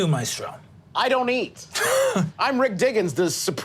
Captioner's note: laughing